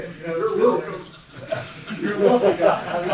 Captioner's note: laughing